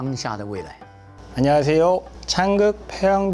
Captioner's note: speaking in Korean